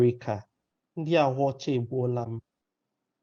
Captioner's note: speaking in a Nigerian language